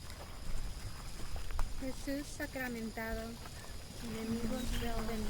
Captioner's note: non-english speech